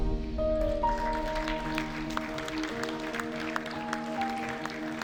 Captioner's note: audience applauds